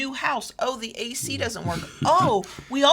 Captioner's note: laughs